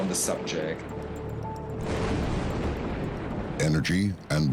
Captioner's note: thunder rumbles